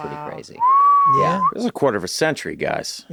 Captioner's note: whistles